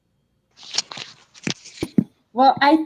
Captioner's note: rustling sounds